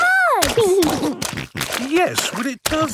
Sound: snorting

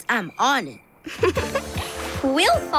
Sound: laughing

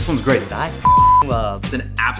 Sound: beep

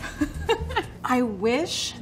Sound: laughing

